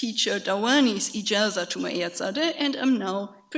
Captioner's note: speaks foreign language